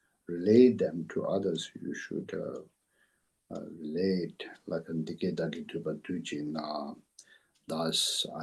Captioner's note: tibetan